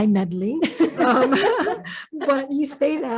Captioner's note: laughing